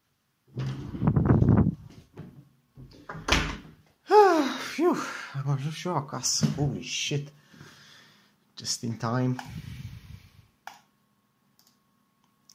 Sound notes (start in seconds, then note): 0.5 door opens, wind blows into the mic; 2.8 door closes; 4.1 sigh; 11.5 click